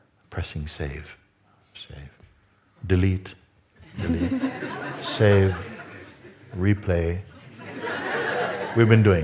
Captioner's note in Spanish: risas